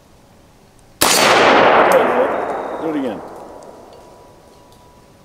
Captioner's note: gunshot